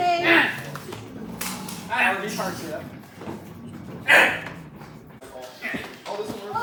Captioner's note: offended yelling